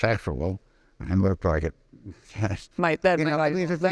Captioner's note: laughing